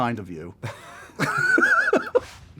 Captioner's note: laughter